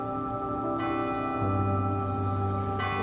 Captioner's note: church bell rings